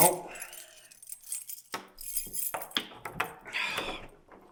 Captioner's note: keys clanging; Jacob sighs